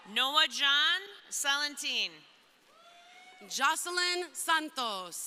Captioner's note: crowd cheering